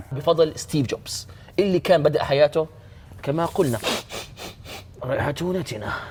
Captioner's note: sniffs